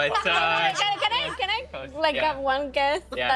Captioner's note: others laughing